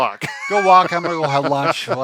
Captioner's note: laughing